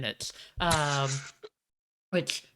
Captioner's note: chuckles